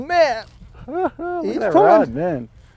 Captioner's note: laughter